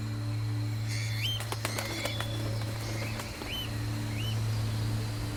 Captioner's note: dramatic music; birds chirping; water rushing